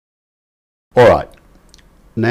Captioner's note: silence